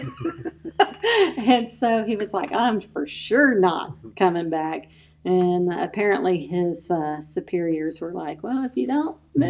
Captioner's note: laughter